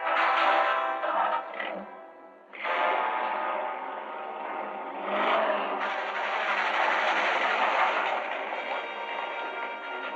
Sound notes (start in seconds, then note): 2.4 engine revving